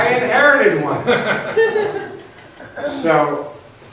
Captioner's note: laughs